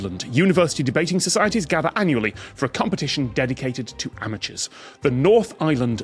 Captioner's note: none